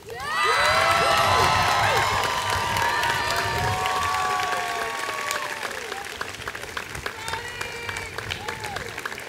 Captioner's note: ongoing applause